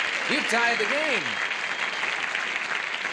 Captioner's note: applause